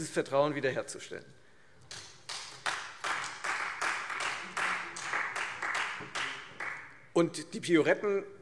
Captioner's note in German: Beifall Freie Demokraten